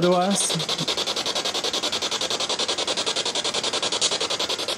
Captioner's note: machine chiming